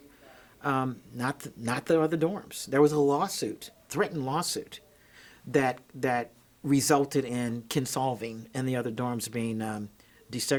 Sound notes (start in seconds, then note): none